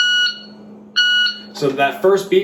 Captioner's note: beep